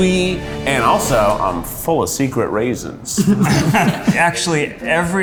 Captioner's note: laughter